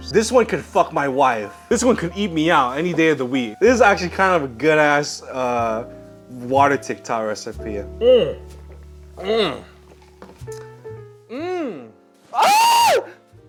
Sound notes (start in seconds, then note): 9.7 screaming